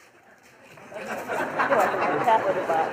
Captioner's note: laughter